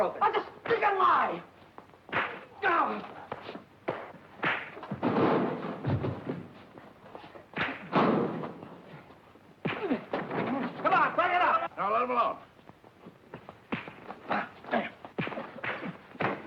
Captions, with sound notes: - That's a stinking lie. (fists thudding) (lockers banging) (fists thudding) - Come on, break it up. - No, let him off. (fists thudding)